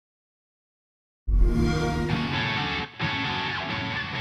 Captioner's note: Xbox Sound